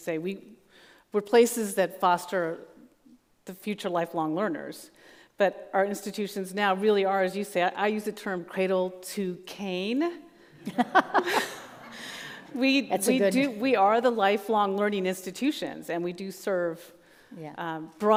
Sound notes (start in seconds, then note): 10.6 laughs